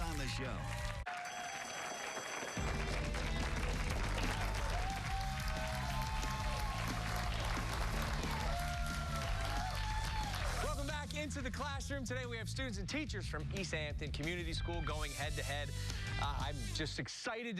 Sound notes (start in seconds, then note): 8.2 cheers and applause